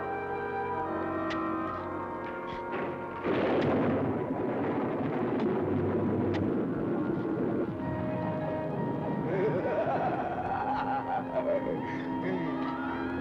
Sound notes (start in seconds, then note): 9.2 maniacal laughter